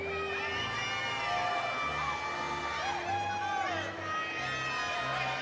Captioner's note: audience cheering